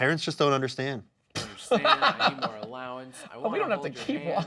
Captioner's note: laughing